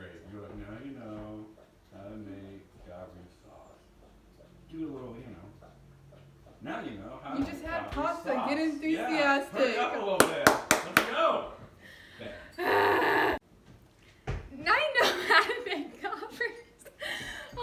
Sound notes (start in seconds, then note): 10.2 claps; 12.4 yells/sighs; 15.0 laughs